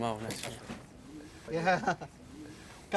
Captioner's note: chuckles